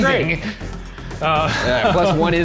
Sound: laughing; others laughing

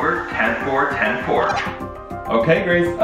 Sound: walkie-talkie beeps

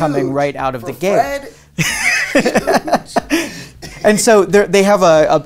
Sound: laughs

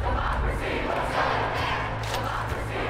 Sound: crowd

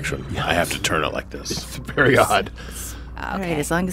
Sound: laughs

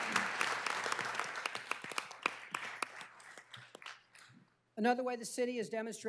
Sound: applause

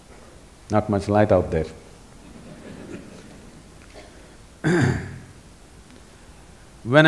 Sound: laughter

